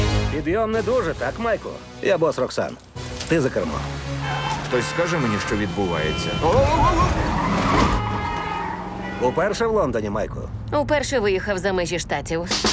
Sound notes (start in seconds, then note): 6.8 tires screech; 7.8 horns honking